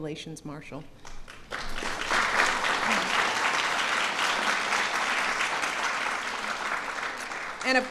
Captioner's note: applause